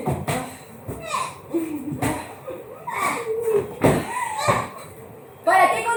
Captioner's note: groans in defeat; squeals in victory